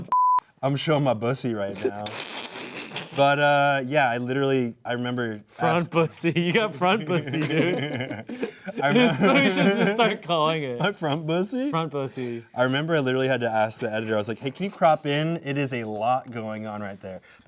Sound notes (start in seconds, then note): 2.6 snickering; 8.3 all laughing